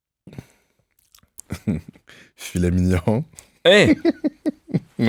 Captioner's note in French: petit rire